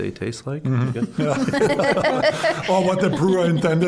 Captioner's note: all laughing